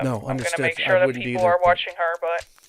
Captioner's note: over the phone